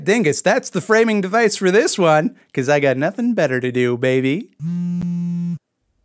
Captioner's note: cell phone vibrates ominously